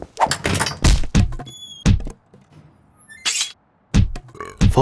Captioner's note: broom clattering; door slams; fist thudding